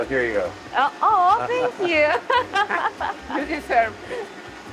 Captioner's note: laughs